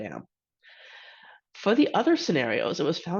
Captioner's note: inhales